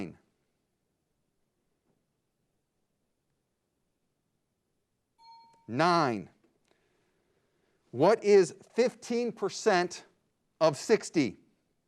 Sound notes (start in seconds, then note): 5.2 bell dings